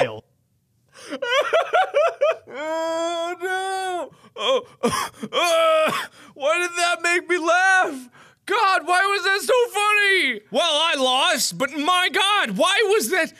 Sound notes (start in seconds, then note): 1.0 intense laughter; 2.5 sounds of defeat